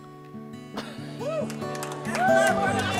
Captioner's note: whooping and cheering